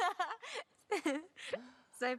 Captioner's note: both laughing